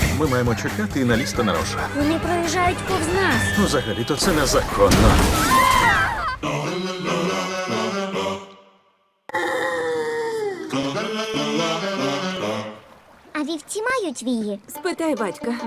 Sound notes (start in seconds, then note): 5.5 all screaming; 9.3 groaning; 10.4 whimsical a cappella continues